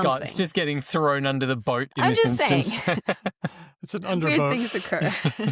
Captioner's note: laughs